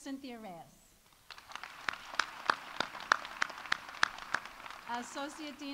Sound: audience applauding

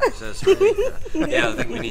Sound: group laughs

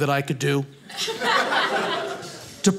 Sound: audience laughing

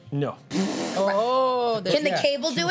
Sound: laughing

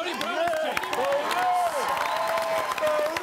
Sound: all cheering

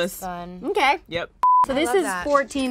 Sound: beep

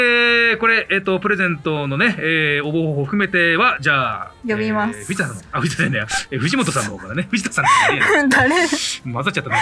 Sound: laughs

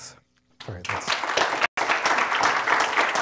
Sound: applause

